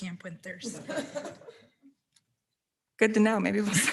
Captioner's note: board members laughs